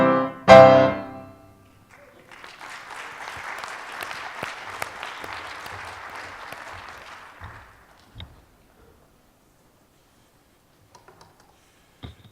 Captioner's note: applause